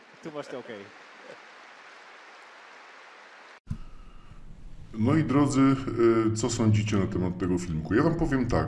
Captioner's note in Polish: Aplauz